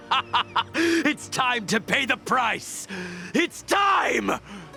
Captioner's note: laughing in madness